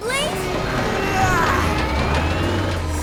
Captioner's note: grunting